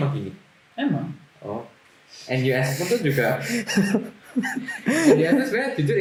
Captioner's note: laughter